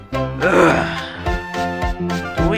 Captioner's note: uuuggh